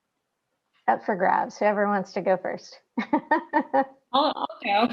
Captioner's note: laughing